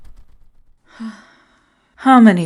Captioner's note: MEGATRON sighs